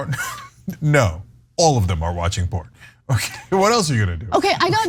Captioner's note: laugh